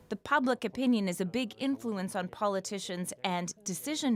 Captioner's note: speaking alternate language